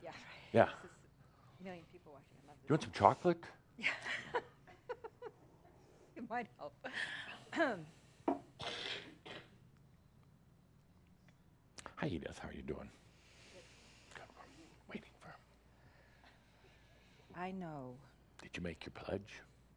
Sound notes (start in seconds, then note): 3.8 giggles; 13.4 whispers